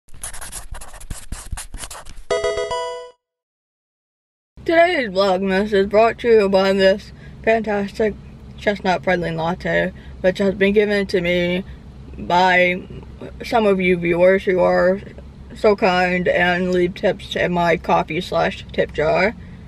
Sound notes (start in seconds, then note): 0.1 pencil writing